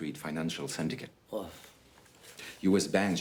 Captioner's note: Rene scoffs